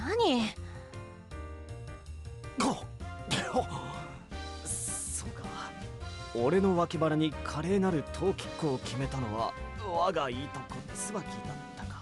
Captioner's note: cough